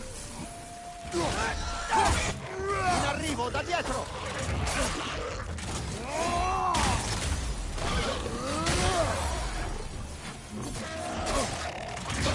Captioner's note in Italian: gemito